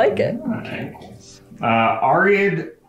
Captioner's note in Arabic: يغمغم